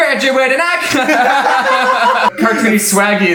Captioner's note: singing; laughs